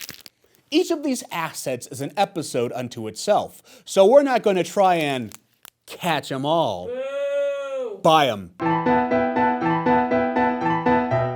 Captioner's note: booing